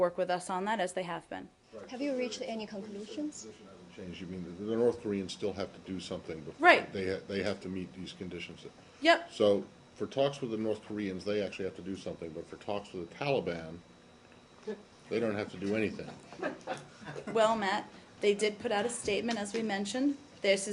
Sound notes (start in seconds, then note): 15.9 laughter